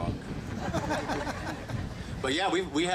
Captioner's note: group laughing